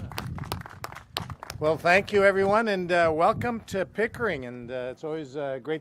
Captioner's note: applause